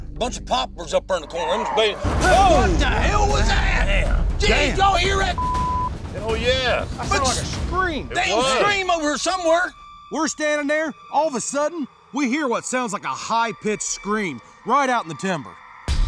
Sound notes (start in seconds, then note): 1.2 scream